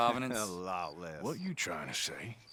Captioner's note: laughs